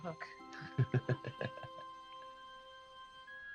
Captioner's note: laughs